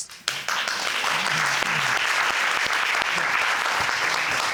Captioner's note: audience applauding